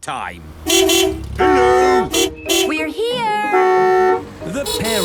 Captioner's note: beeping